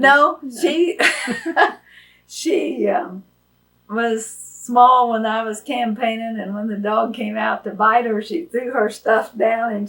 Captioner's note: laughs